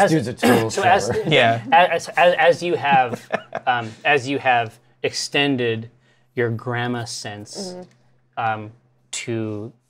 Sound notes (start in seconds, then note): 2.1 stammers